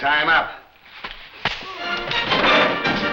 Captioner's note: lively music; thuds